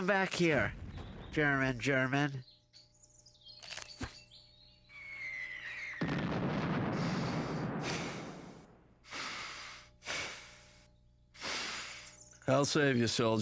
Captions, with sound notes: COME, UH... COME BACK HERE... GERMAN, GERMAN. (explosion) (inhaling and exhaling)